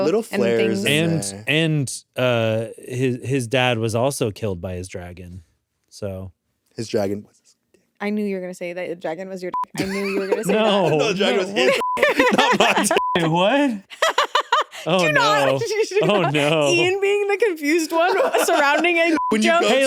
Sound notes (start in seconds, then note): 9.5 beep; 12.8 beep; 13.8 laughs; 19.1 beep